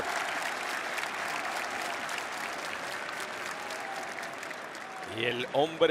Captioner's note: applause